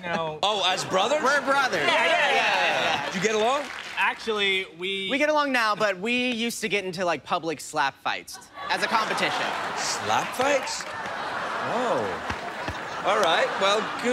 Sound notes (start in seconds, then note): 10.1 laughter